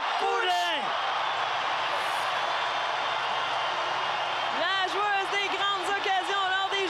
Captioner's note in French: cris des spectateurs